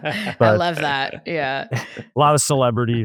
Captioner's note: laughs